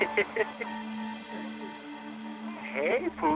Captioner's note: laughs